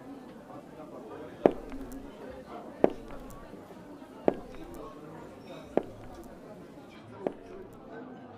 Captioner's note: slow retreating footsteps